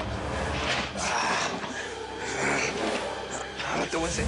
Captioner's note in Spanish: Quejidos